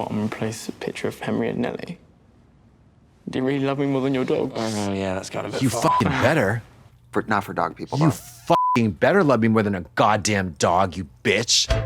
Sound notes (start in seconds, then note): 5.8 beep; 8.5 beep